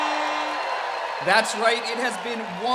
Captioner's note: applause